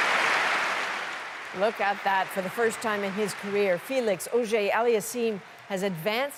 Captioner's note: applause